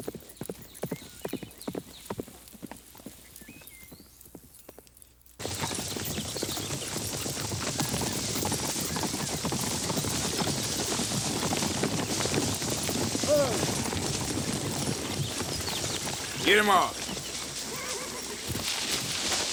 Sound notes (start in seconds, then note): 5.5 hooves clop